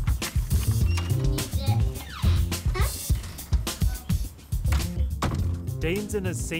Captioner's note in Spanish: puerta abriéndose y cerrándose